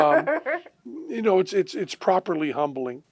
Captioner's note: laughter